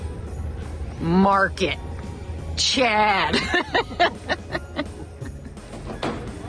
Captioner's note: laughs